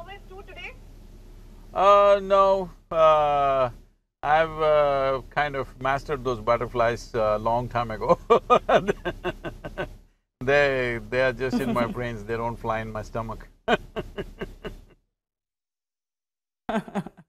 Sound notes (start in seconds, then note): 8.0 laughs; 14.5 laughs